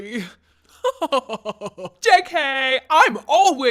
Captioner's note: laughs